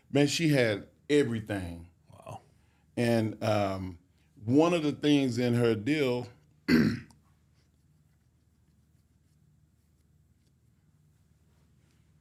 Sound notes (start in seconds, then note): 6.6 clears throat